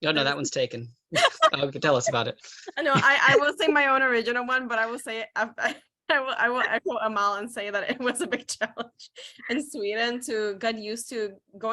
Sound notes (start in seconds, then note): 2.6 laughs